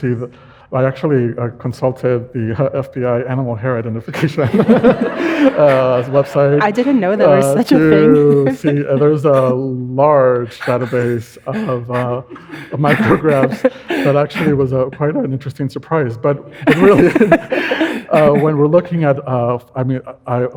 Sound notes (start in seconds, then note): 4.1 audience laughing; 4.1 laughs